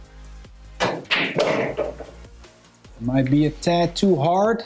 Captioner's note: balls clanging